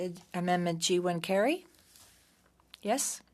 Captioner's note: speaking French